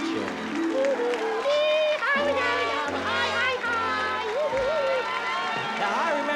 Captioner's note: baby talk